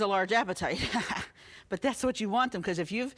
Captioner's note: laughing